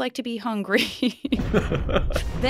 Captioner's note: chuckles